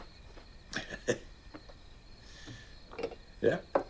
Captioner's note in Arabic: يضحك